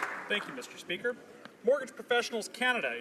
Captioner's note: applause